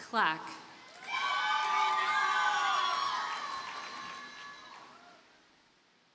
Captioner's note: audience cheers and applauds